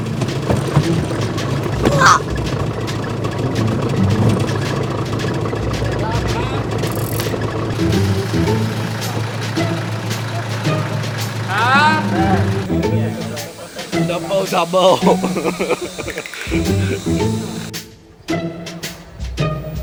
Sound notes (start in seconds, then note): 15.5 laughs